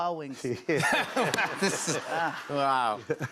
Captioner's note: laughter